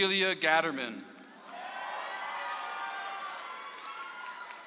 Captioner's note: audience applauds